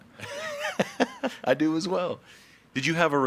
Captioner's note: laughs